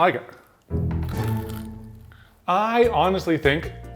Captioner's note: Takis crunching